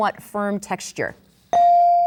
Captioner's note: bell dings